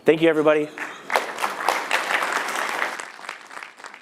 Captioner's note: applause